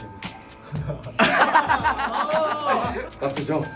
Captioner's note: bitter laugh at the extreme penalty